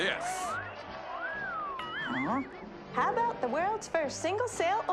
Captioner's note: man in audience wolf-whistles